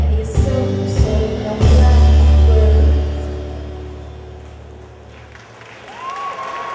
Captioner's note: loud buzzing